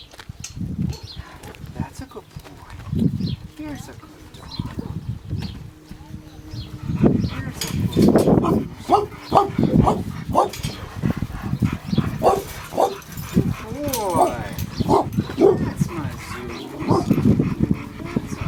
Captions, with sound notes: That's a cool boy, he is a cool dog. (dog barking)